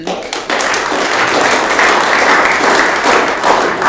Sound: audience clapping

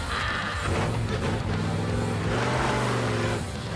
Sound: engine revving

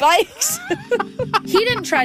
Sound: both laughing

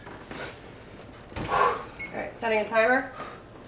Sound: exhales

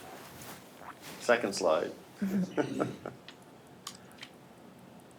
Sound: chuckles

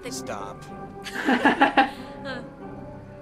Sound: laughs

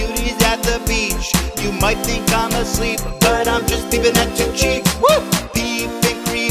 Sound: woo

